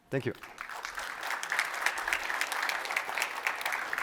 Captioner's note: applause